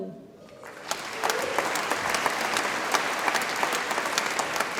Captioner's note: audience applauds